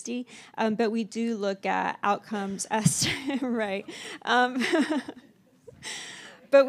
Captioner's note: laughs